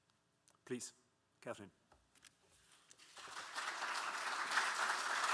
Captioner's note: audience clapping